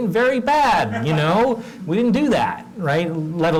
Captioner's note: laugh